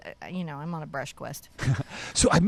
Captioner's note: chuckles